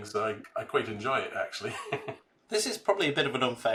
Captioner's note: chuckles